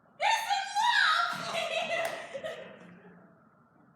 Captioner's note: laughter